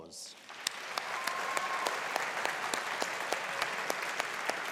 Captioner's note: audience applauding